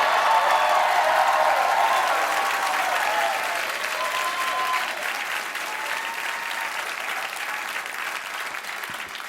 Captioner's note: cheers and applause